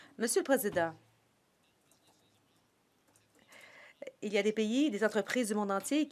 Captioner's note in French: voix de l'interprète